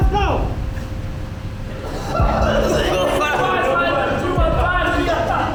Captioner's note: coughing